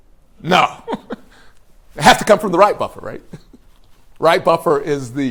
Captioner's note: laughs